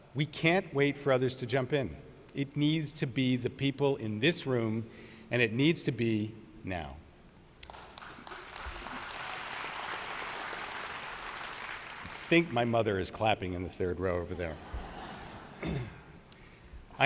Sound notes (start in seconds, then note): 7.6 audience applauds; 14.4 audience laughs